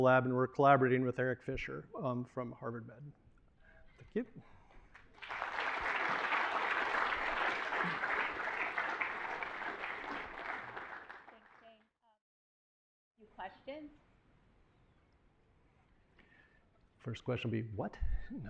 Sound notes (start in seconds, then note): 4.9 applause